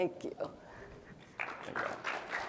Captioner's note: applause